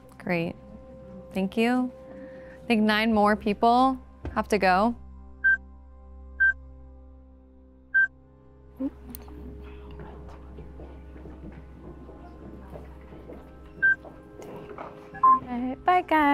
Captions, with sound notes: - Great, thank you. I think nine more people have to go. (soft music) (timer beeping) (footsteps receding) (timer beeping) - Dang.